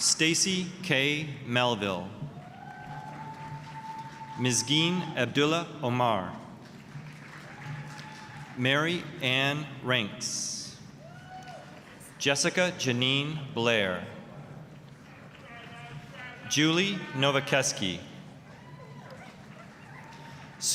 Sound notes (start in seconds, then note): 2.2 applause, cheering; 10.9 applause, cheering; 15.2 applause; 18.5 applause